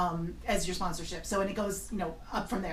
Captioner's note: voiceover